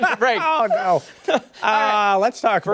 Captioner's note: laughter